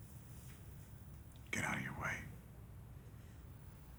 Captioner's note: none